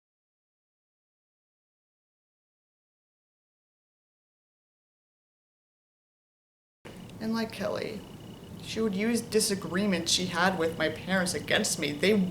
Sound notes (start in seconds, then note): 6.1 silence